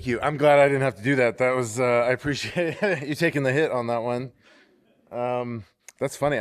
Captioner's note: laughter